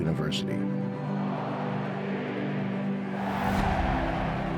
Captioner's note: crowd